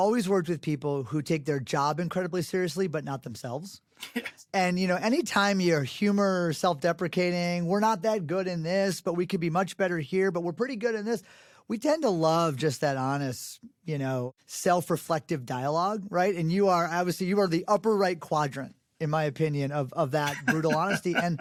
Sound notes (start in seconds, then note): 4.0 laughs